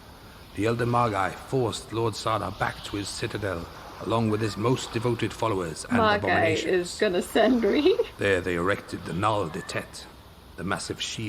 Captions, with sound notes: MAH-GUY IS GONNA SEND ME [LAUGHS]